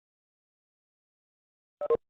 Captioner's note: phone ringing